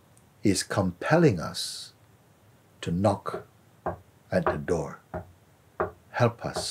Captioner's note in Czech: zvuk klepání